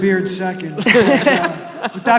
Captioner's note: audience laughing